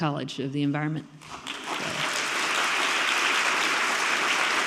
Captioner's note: audience clapping